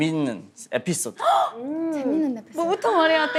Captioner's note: gasp!